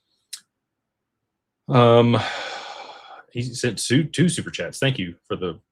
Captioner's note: sighs and gasps